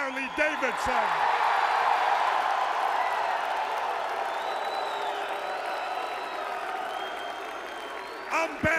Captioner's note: crowd cheering